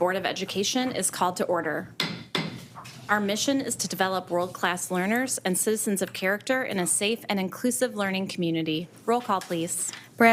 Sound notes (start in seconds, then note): 2.0 gavel thuds